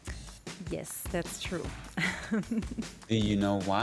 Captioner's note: chuckles